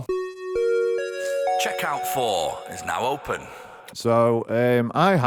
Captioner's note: chime